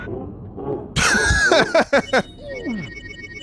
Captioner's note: laughs